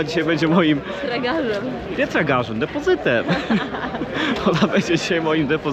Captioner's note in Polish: śmiech